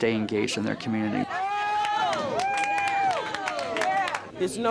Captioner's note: cheering and clapping noise